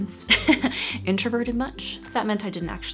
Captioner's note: laughs